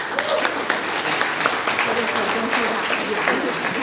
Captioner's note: applause